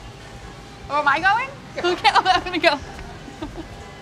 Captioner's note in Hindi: हंसते हुए